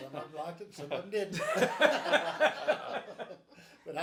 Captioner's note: group laughs